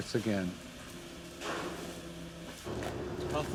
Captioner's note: kitchen noise